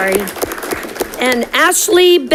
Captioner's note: audience clapping